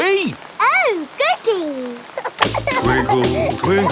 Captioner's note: giggling